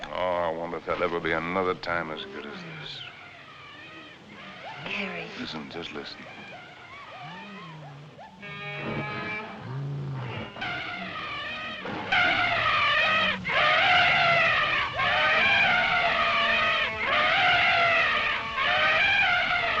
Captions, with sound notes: Oh, I wonder if there'll ever be another time as good as this. Harry-- Listen. Just listen. [ Animals Lowing, Screeching ] [ Trumpeting ]